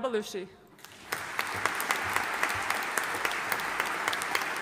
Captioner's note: audience applauding